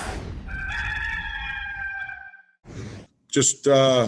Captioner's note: rooster crowing